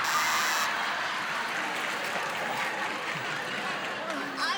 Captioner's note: laughter